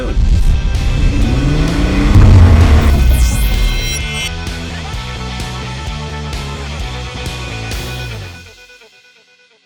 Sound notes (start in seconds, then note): 0.3 motor revving